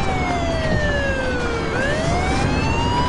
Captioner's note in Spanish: Sirenas